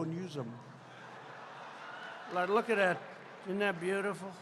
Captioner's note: laughter